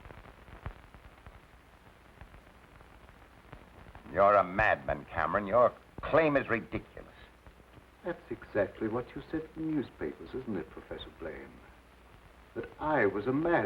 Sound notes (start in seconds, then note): none